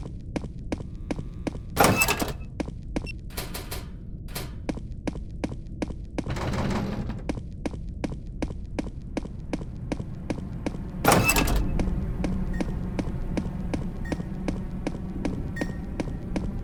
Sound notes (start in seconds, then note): 2.9 lil ol warning beep